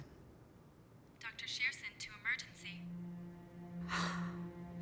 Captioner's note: woman Over Speaker